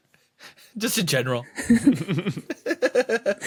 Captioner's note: scattered snickering